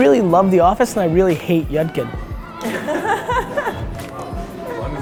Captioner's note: group laughter